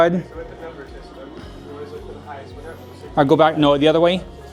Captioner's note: people chattering distantly